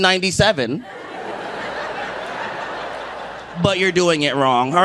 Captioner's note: audience laughing